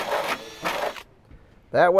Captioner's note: drilling